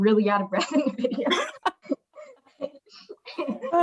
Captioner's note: laughs